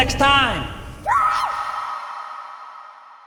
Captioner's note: scream